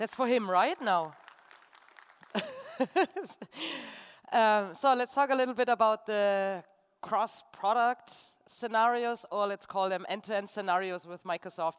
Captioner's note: applause